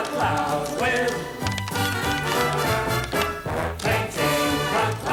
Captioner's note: tap shoes click